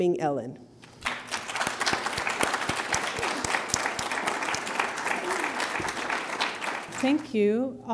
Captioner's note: applause